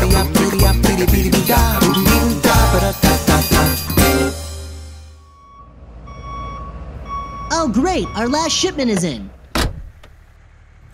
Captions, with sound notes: [song ends] *delivery truck backing in* Oh, great. Our last shipment is in!